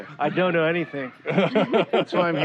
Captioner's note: laughter